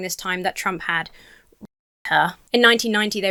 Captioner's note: audio cuts out